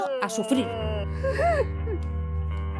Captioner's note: crying